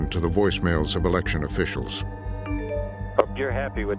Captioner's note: chime